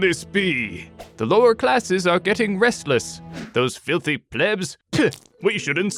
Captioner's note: spits